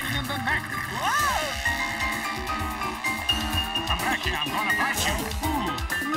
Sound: applause

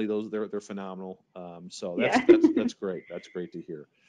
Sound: chuckling

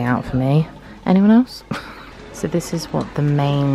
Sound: laughs

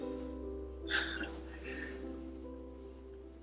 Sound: Taz laughing

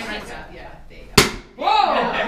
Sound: board breaks

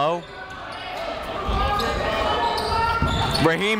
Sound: chatter

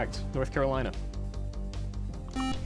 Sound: buzzer

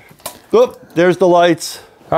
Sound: switch clicks

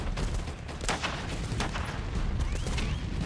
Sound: gunshots

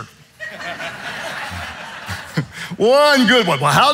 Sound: audience laughing

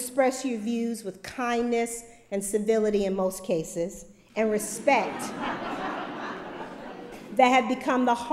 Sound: laughter

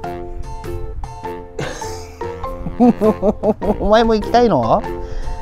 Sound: laughs

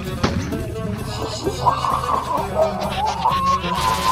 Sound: snake hissing; electrocution, LINK screaming

